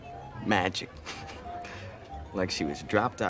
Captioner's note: laughs